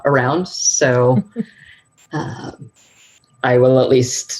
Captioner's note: laughing